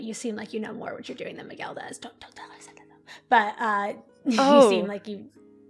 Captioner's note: whispering